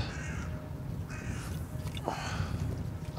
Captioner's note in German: Krähenrufe